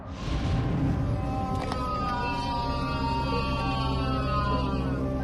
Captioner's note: loud wailing